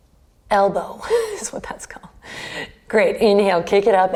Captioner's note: laughs